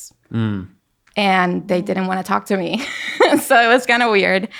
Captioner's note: laughing